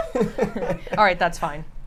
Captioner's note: laughs